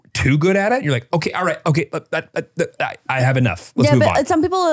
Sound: stutters

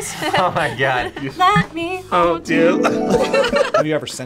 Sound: both laugh

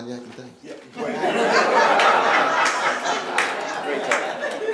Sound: laughing

